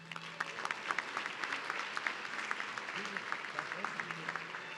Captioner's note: audience clapping